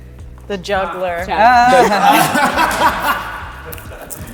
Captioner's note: laughs; all laughing